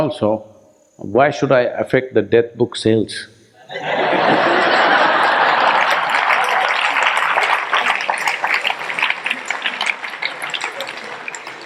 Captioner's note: laughter/Applause